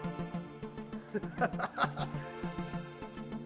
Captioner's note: laughs